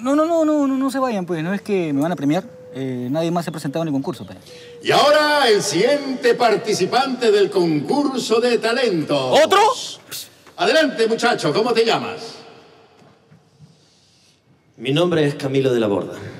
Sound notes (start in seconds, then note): none